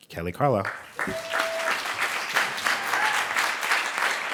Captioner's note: clapping